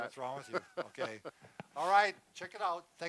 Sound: laughs

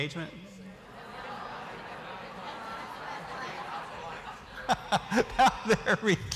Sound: laughter

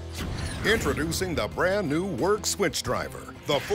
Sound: voiceover

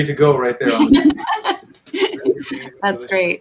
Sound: laughing

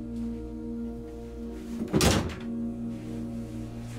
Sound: door slams

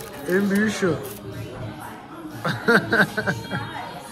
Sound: drunk laugh !!

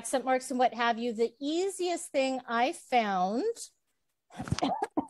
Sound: coughs

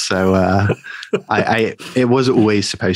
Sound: laughing

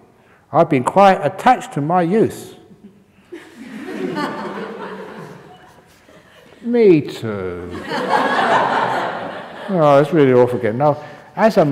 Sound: laughter

